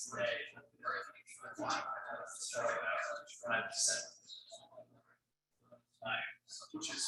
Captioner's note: people chattering indistinctly continues